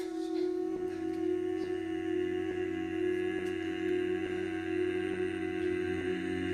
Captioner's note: humming